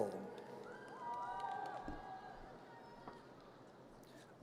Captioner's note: audience cheers